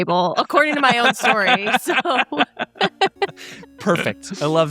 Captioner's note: all chuckling; gentle music